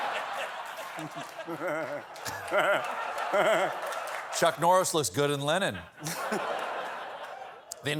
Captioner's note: laughter